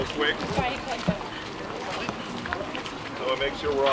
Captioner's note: crew chattering